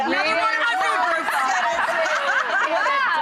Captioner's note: laughter